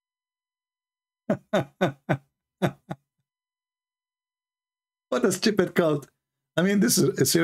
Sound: Ketawa

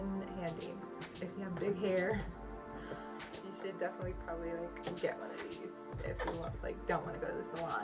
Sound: laughs

